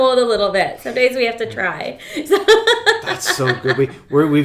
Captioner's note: laughs